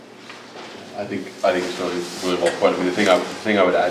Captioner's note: man speaking